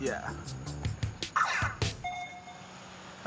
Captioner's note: game beeps